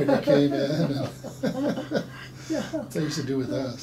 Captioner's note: laughing